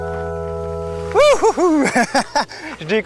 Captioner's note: laughs